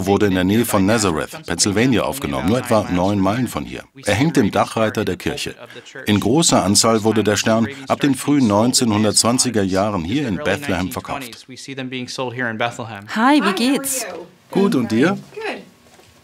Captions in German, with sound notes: Dieses Foto wurde in der Nähe von Nazareth, Pennsylvania, aufgenommen, nur etwa neun Meilen von hier. Er hängt im Dachreiter der Kirche. In großer Anzahl wurde der Stern ab den frühen 1920ern hier in Bethlehem verkauft. (englisch:) Hi, wie geht's? - Gut, und dir?